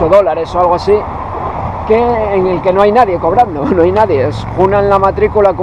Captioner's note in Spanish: risa